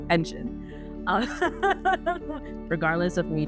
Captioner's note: laughing